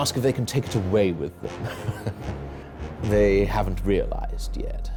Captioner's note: chuckles